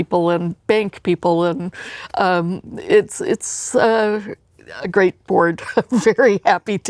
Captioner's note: laughs